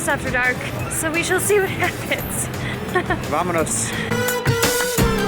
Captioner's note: laughter